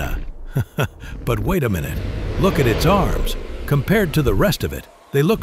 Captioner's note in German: Lacht